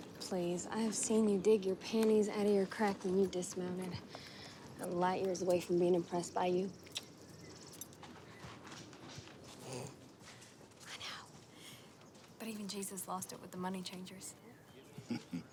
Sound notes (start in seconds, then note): 9.9 Valentine chortles; 14.9 Valentine chuckles